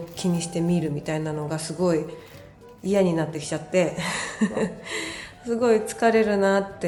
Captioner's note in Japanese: 笑い